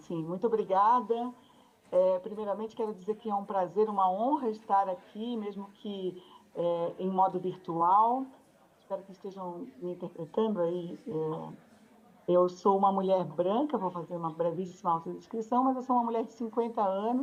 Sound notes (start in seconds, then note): 3.2 speaks Portuguese